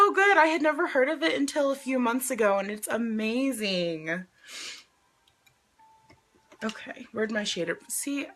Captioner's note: sniffs